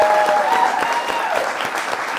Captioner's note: applause